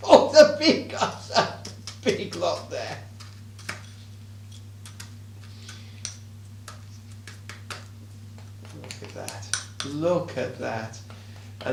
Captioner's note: laughing